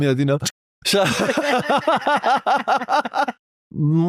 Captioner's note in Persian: خنده